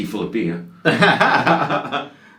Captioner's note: laughing